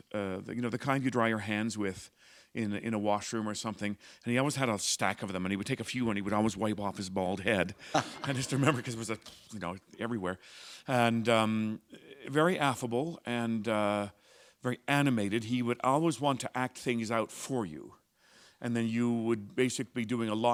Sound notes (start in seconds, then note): 7.8 laughter